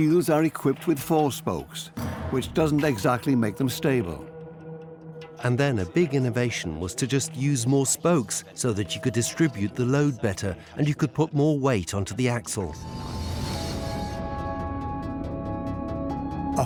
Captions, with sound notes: Initially, wheels are equipped with four spokes, which doesn't exactly make them stable. (speaks German) (dubbed in English) A big innovn was to use more spokes to distribute the load better and so you could put more weight onto the axle.